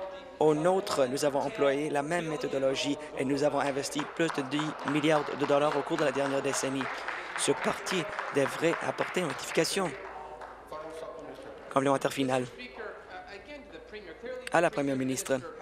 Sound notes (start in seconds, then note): 8.3 applause